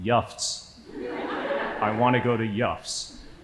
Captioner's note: audience laughing